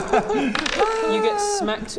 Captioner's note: laugh-cry